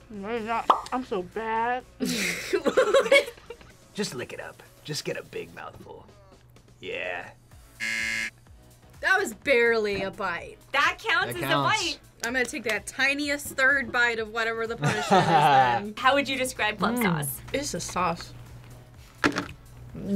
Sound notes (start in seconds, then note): 2.0 laughs; 7.8 buzzer rings; 14.8 laughs